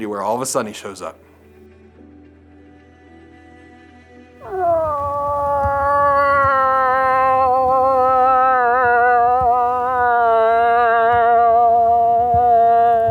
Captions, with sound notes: where all of a sudden he shows up. (uplifting music) (moose calling)